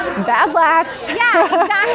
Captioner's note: laughs